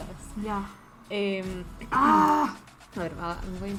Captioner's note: gets frustrated in Spanish